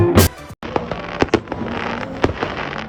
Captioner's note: fireworks sound effect